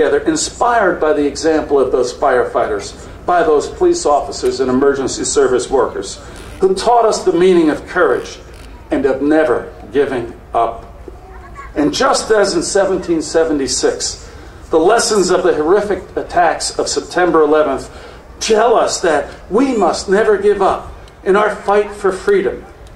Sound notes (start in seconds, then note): none